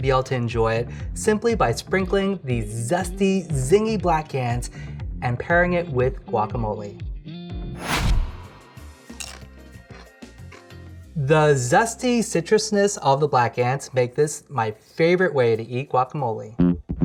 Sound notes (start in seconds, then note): 9.0 crunching; 16.5 funky bass guitar riff